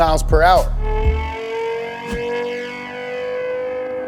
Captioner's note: car revving